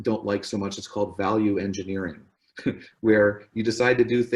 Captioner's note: laughs